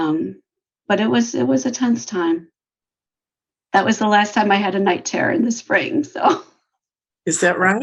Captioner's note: laughs